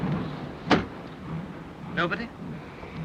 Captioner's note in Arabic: النافذة تغلق بقوة